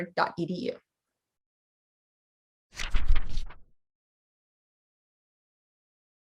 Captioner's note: fluttering Pages